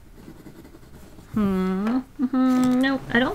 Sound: hums the start of wedding tune

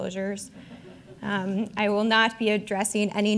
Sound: audience chuckling

